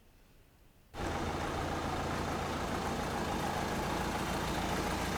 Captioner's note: car engine revving